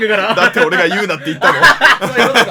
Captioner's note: laugh